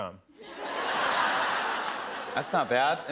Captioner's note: laughter